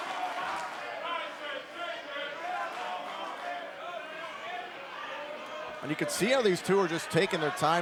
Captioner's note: crowd cheering